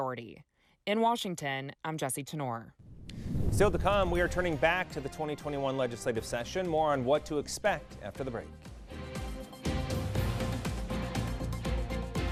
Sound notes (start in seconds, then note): 2.8 air whooshing; 12.1 upbeat music